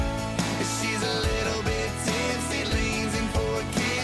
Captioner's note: none